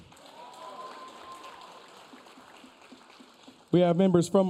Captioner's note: audience cheering